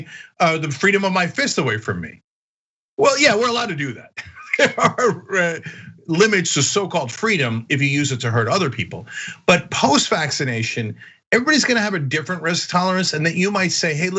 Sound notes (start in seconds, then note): 4.0 laugh